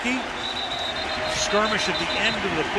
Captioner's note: whistle blows